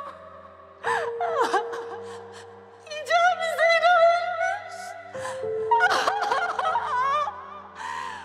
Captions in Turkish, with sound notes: (Ağlıyor.) Hicabi, Zehra ölmüş! (Ağlıyor.)